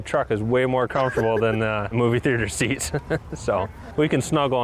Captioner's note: laughs